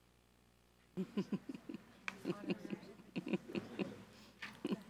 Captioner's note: person chuckling